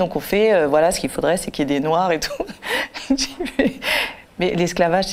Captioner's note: laughter